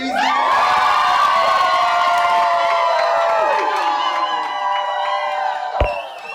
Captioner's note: cheering